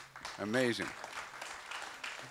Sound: applause

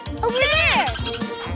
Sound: squeaking

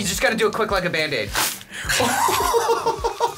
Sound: paper rips; laughing

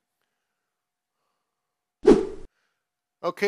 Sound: whoosh sounds

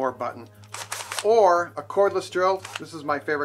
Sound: drill whirs

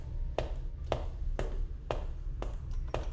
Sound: footsteps

